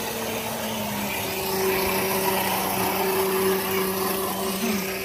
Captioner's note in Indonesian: Suara mobil kasar